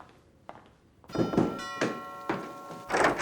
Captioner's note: footsteps tapping; doorbell ringing; footsteps tapping